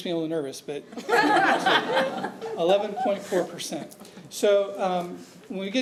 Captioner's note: audience laughing